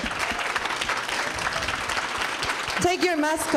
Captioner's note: applause